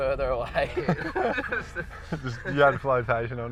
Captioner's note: both laugh